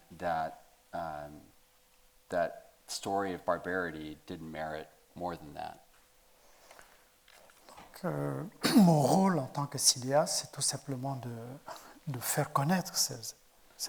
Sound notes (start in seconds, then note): 8.2 speaking in French